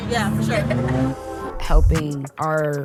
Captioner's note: attendee laughing happily